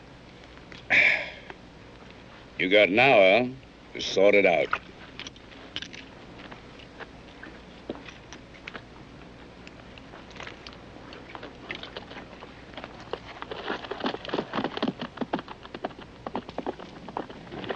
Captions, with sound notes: [contented sigh] You got an hour to sort it out.